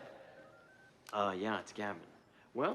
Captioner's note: phone auto-dialing